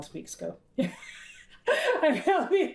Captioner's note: laughs